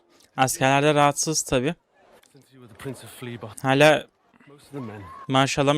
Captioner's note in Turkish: homurdanır